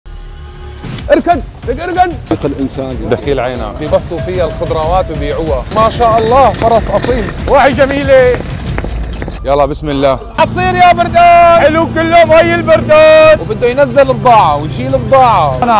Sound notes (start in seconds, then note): 1.2 excitedly shouts; 10.5 shouting